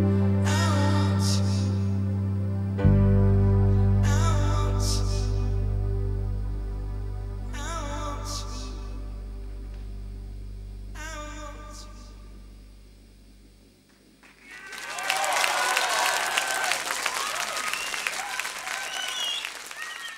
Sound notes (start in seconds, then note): 14.2 audience applauds